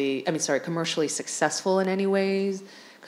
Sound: none

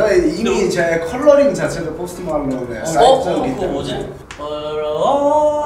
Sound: speaking Korean; singing

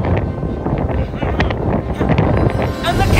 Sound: clears throat

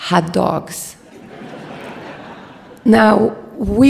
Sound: audience laughs

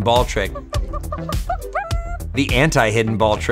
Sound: clucks

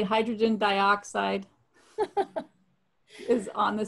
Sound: laughing

